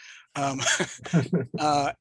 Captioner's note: laughs